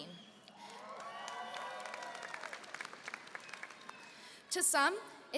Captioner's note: applause and cheering